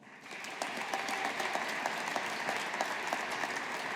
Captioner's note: audience applauding